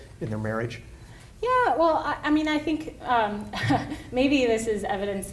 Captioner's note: laughs